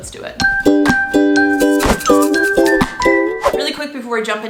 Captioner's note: upbeat music; whooshing